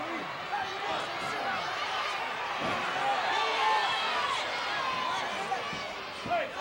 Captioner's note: wrestlers and referee chattering